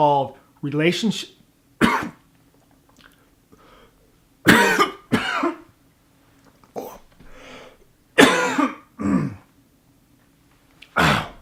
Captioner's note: coughing